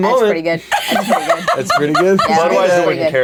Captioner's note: laughing